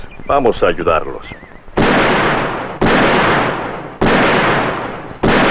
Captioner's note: gunshots